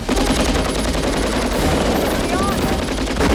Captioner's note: Victoria Shouts